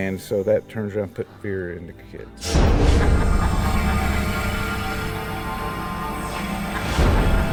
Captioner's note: man laughing; dramatic music